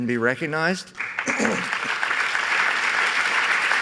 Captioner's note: applause